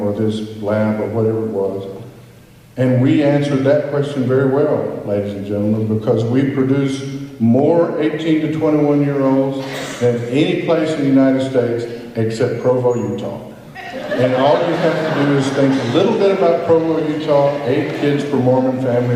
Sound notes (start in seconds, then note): 13.8 laughter